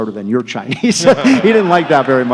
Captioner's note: laughter